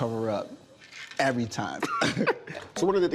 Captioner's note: chuckles